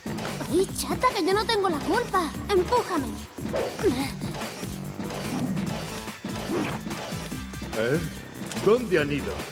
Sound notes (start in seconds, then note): 7.3 whoosh